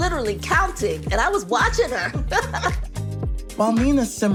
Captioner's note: laughs